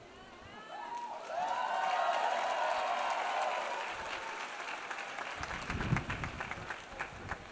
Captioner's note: audience cheers; audience applauds